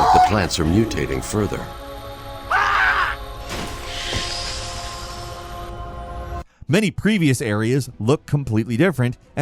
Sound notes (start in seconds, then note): 2.5 creature screams; 3.4 element explodes; 4.5 mysterious music